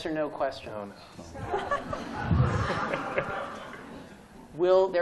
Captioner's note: laughter